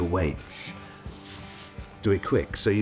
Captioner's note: hissing